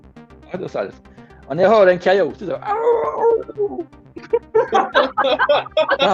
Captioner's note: making a tormented howling sound